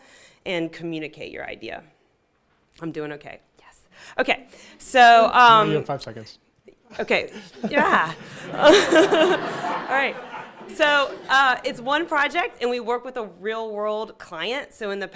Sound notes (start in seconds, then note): 7.0 laughing; 7.2 audience laughing